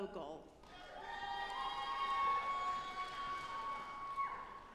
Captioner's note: audience applauding